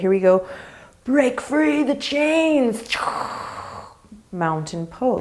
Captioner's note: exaggerating exhale